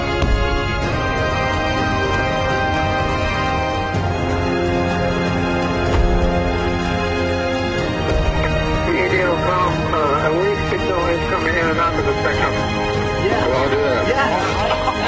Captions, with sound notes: [muffled speaking through radio] >> Yes! >> That ought to do that. >> Yes, yes!